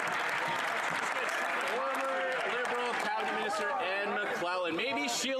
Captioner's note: some Applause